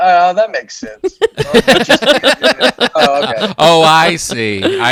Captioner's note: group laughs